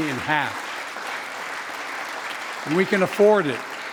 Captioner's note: applause